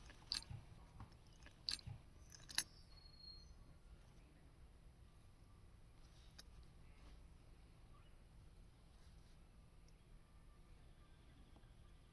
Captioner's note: birds chirping, hooks flipping